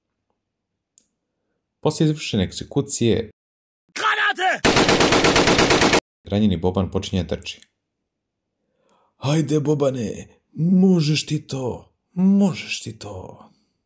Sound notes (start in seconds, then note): 4.4 shooting sounds